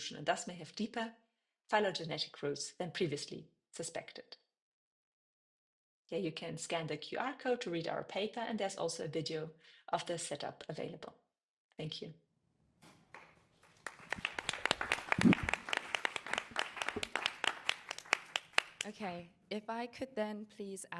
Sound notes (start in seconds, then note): 13.1 applause